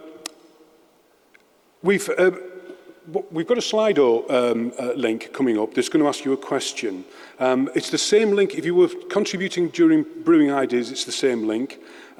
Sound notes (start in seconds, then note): none